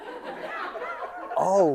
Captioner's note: audience laughs